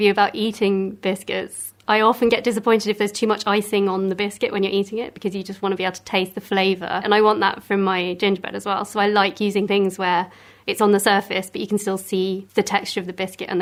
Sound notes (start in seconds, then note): none